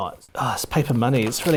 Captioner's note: paper crinkling